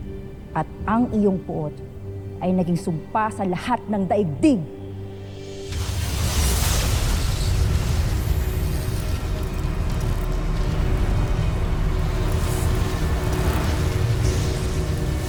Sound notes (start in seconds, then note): 5.5 REVERBERATING CHIMES,</i> SPELLBINDING WHOOSH; 5.9 tense music playing